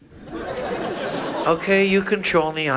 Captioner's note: audience laughs